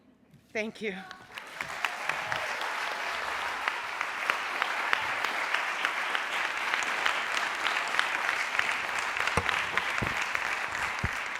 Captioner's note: applause